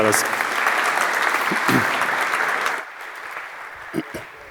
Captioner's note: applause